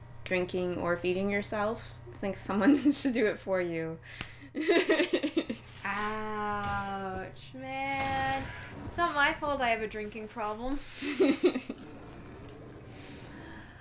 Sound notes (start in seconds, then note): 4.5 laughter; 11.0 laughter